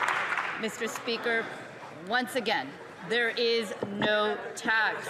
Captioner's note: some Applause